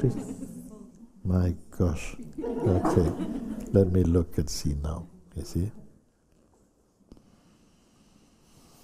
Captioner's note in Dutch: gelach